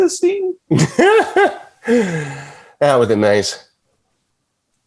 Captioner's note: laughing